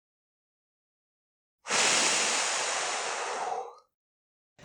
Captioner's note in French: Soupir contenant à peine la frustration